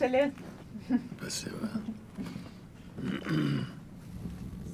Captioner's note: laughing; clears throat